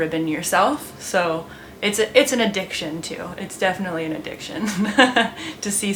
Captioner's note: laughs